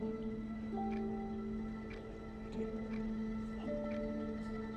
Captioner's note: whispering